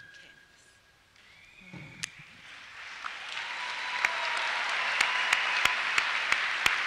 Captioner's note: applause and cheers